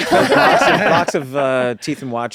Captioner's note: laughter